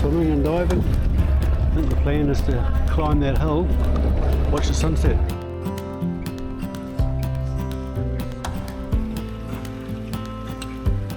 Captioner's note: outboard motor